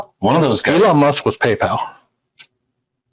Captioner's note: murmurs